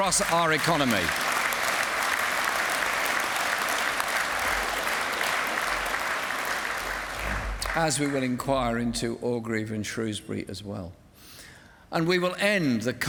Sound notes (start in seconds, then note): 0.0 applause